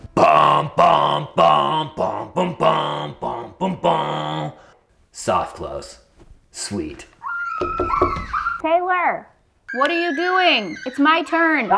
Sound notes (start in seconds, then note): 7.3 children playing; 7.6 knocking